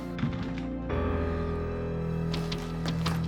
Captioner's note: thumping; tense music